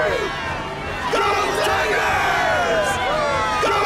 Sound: crowd cheering "go tigers"

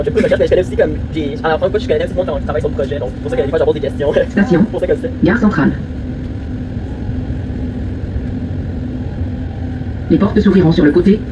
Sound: french Chatter Sped Up

